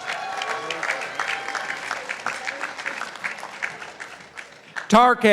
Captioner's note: participants applauding